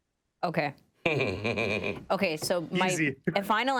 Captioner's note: laughing gently